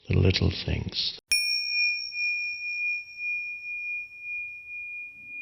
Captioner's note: bell dinging